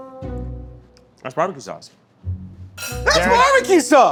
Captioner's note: spoon clanking